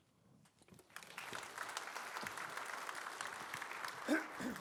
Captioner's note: applause